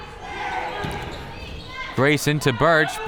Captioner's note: crowd members shouting